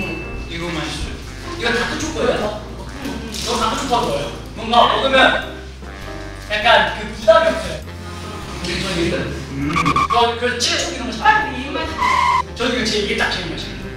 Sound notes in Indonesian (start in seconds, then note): 9.6 Screech; 11.9 Screech